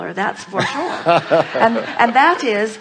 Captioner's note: guest laughs